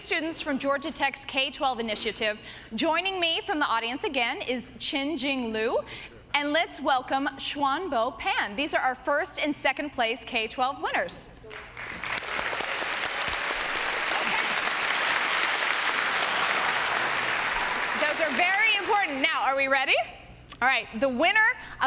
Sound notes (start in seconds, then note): 11.4 applause